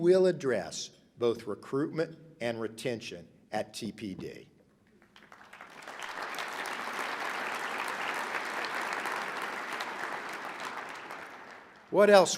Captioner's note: applause